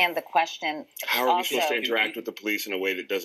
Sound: voiceover

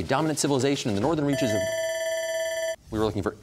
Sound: bell ringing

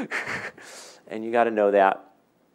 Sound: laughing

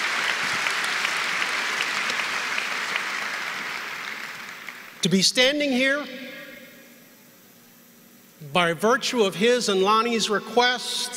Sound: applause

